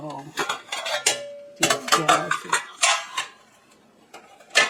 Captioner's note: trays scrape on each other